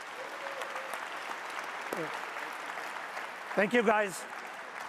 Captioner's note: audience applauds loudly